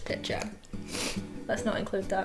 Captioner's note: sniffles